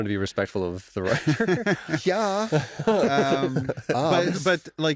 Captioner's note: laughter